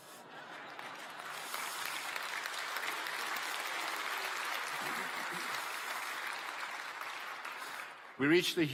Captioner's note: applause